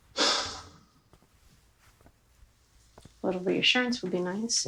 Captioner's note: Michael sighs